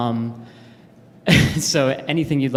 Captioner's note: laugh